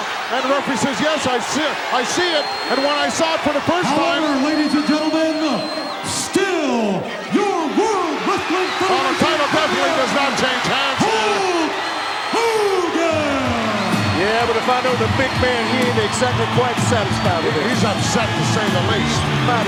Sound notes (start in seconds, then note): 8.9 audience cheering; 13.3 upbeat music